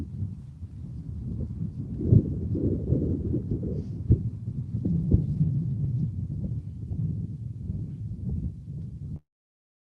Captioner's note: wind; silence